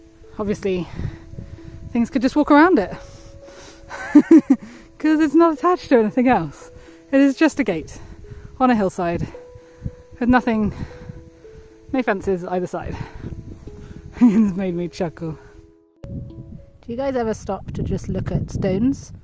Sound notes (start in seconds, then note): 3.9 chuckles